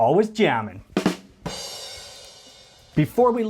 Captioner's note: drum and plate hitting